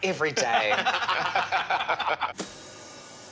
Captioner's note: laughing